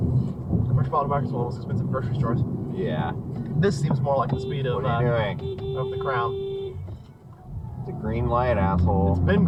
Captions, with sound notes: *BEEP* What are you doing?? *BEEPBEEEEP* It's a GREEN light, asshole!